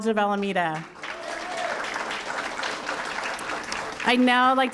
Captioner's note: applause